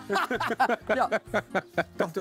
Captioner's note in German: Lachen